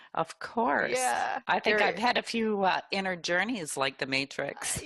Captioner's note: laugh